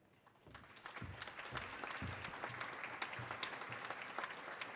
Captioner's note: audience applauding